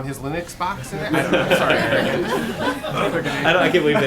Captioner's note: laughter